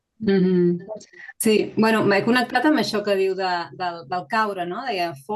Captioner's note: speaking in Catalan